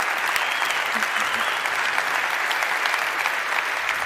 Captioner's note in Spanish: Aplausos